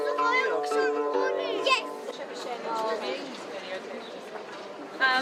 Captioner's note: general chatter